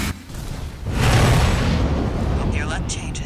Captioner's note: rushing noise of launch